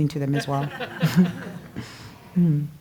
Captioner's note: laugh